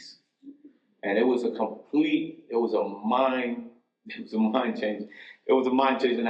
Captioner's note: chuckles